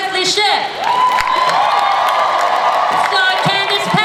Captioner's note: audience cheers